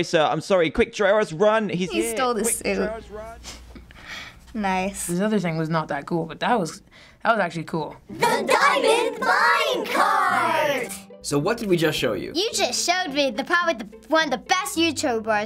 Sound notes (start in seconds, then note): 3.6 chuckles